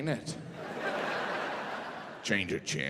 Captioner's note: audience laughing